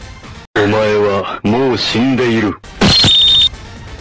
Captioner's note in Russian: На японском